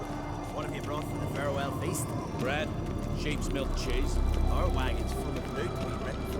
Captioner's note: merchants conversing